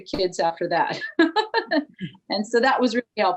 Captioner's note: chuckles